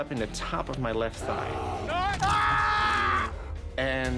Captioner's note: crunch